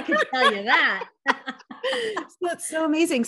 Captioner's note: chuckles